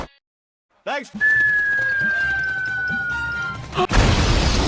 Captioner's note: whistling, as birds do